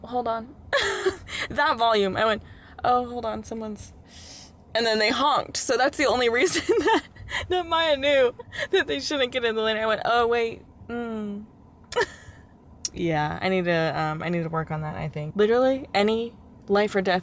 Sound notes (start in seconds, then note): 0.9 laughter